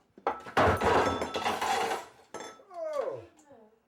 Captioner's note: trophies clattering